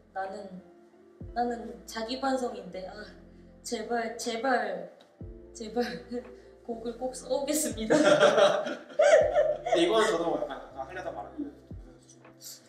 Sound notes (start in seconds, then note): 7.8 laughs